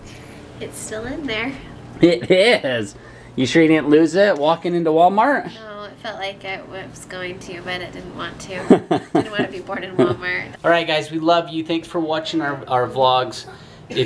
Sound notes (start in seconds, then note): 8.6 laughs